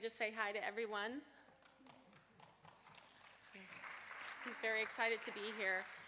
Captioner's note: applause